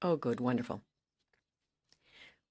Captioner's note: speaking French